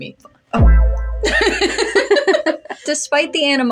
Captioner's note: laugh